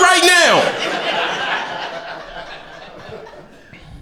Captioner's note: crowd laughter